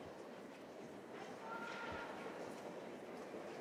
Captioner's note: none